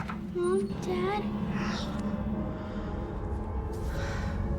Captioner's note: suspenseful; gasping